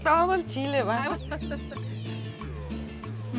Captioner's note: Pati laughs